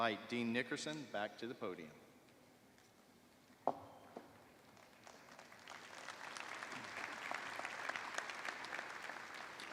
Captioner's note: applause; cheers and applause